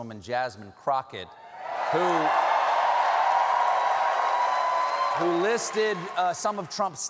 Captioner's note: cheers and applause